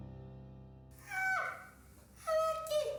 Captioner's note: girlfriend yells